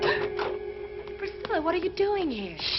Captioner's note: Priscilla gasps